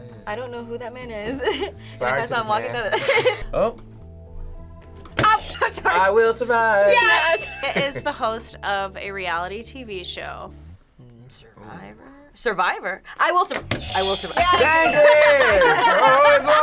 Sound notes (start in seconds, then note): 2.9 chuckling